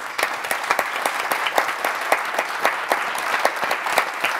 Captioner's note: audience applauds